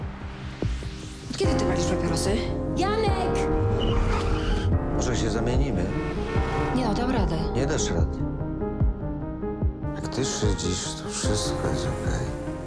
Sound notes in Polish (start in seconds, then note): 3.3 pisk opon; 5.7 klaksony